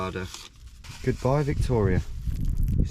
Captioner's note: wind whooshes